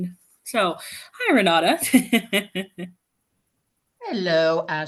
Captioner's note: laughs